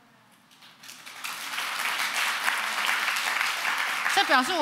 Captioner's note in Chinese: 掌聲